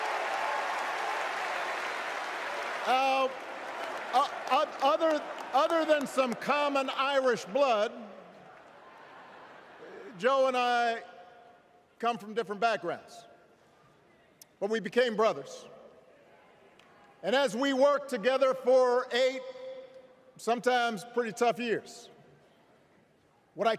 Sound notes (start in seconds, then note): 4.5 cheers